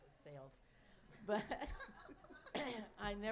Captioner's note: laughter